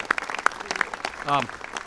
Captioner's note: applause